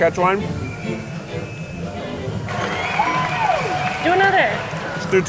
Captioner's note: light playful music; crowd cheers